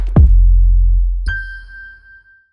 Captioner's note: chime sound